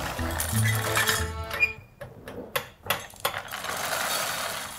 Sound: cereal rustling

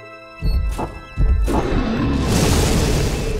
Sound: dragon roars

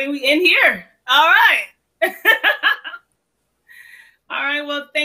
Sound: laughs

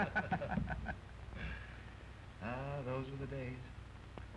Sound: laughing

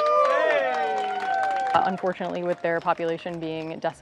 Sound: crowd applauding

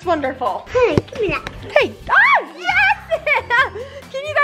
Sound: screaming; water sprays

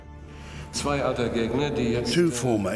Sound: speaking German

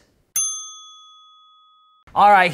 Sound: bell chiming

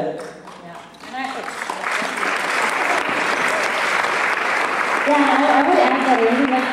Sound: applause

